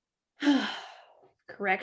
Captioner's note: sigh